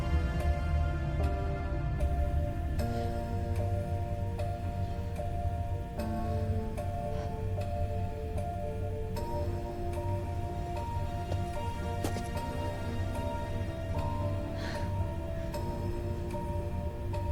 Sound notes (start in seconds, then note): 11.2 footsteps